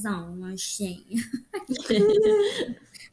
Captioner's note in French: Rires